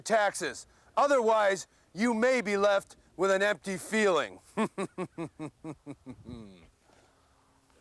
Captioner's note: laugh